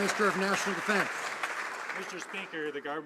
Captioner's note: some Applause